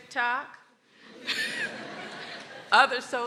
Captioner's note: people laughing